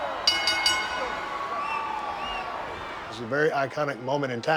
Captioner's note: bell ringing